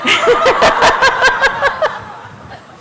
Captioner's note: laughter